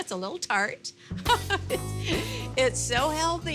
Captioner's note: giggling